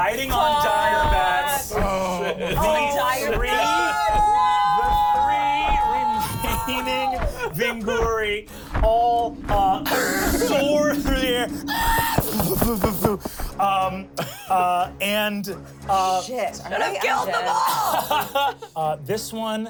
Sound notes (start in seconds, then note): 2.4 everyone shouting; 12.0 shrieks; 16.7 everyone laughs